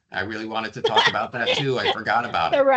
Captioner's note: laughing